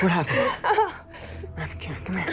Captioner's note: Candace Re-Enactor moaning